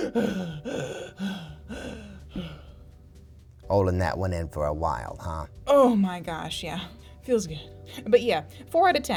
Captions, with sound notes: not to eat that planet. That would've been in poor taste! (gasping) - Olin that one in for a while, huh?